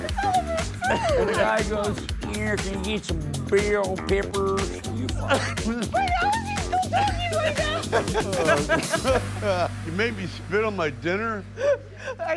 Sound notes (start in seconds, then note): 8.2 group laughs